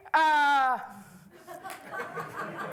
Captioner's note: laughter